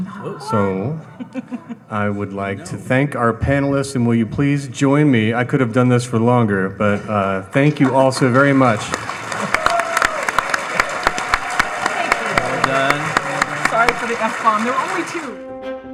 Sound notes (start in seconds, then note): 8.1 audience applauding and cheering; 15.0 inspirational instrumental music